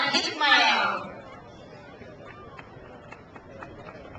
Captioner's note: crowd applauds